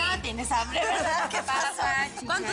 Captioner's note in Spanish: Risas